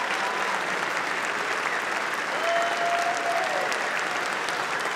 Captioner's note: applause